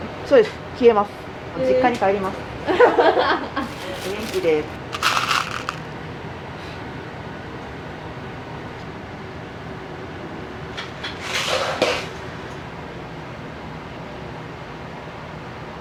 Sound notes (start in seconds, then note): 2.6 laughter